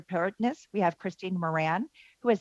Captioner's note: speaking French